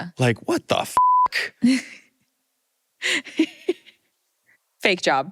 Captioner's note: laughter